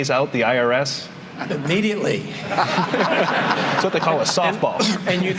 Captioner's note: laughter